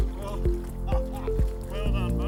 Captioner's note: laughing